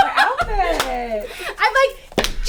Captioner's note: all laugh